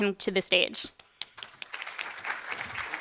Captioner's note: applause